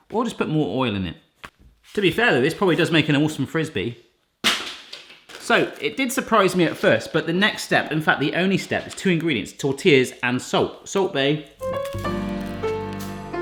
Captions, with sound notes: We'll just put more oil in it. To be fair though, this probably does make an awesome Frisbee. (tortilla crashes) So, it did surprise me at first, but the next step, in fact, the only step, there's two ingredients, tortillas, and salt. Salt Bae. (piano music)